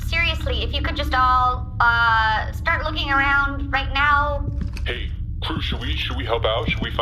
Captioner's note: quietly